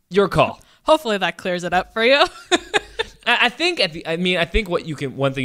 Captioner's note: laughs